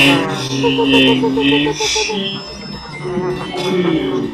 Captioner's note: whimpering